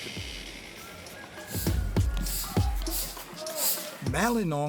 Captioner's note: rooster crows